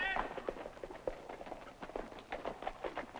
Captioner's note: galloping